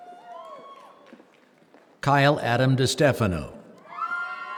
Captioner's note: applause